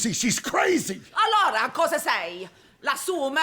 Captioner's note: shouting in italian